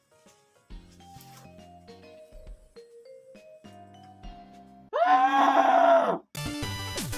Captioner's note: screams